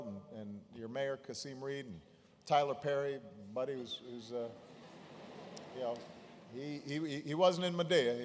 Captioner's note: laughter; laughter